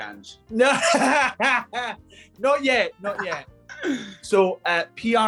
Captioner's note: laughing